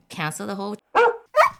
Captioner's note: bark.Bark